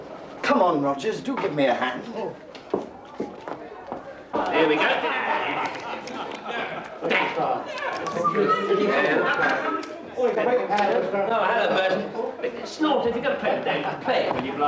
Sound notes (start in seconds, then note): 4.2 loud conversations